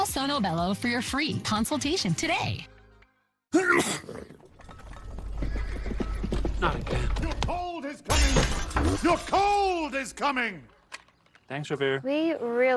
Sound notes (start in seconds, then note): 3.5 sneeze; 6.1 hooves approaching